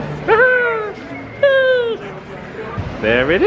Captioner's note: cheers